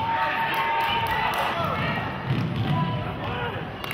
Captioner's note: clapping